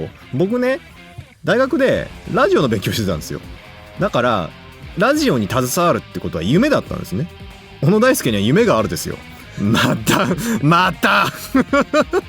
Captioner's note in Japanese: 笑い; 息をのむ音